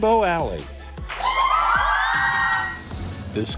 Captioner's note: thrilled cheers